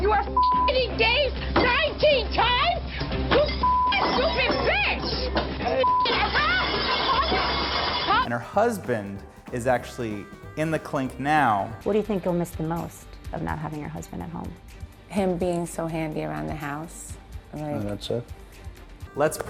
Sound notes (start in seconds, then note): 0.9 beeping; 3.5 beep; 5.8 beep; 7.0 platters clattering